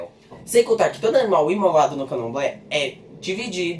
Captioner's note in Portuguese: none